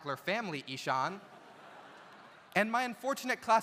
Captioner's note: audience laughs